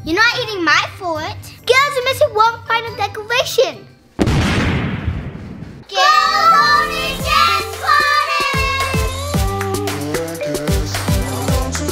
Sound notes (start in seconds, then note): 4.2 dramatic thump; 8.6 dance music